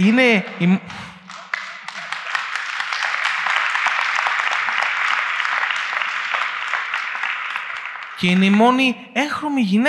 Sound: applause

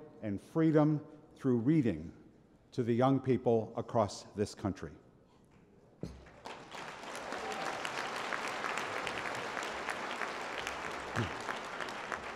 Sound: applause

